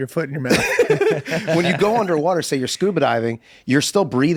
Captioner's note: laughs